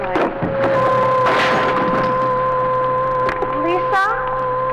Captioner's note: clattering